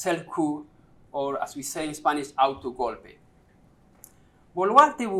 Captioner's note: spanish